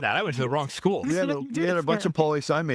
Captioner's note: laughing